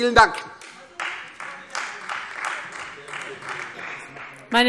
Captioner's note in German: Beifall Freie Demokraten